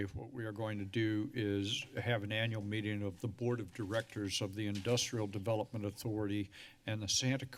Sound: none

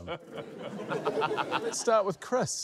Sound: laughter

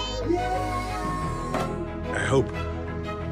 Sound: all exclaim

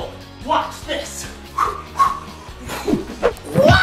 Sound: whooshing

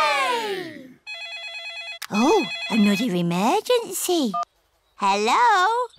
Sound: phone rings

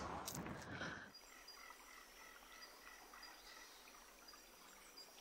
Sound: water trickling; bird cawing

